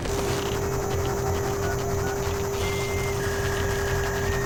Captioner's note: interface whirring; suspenseful music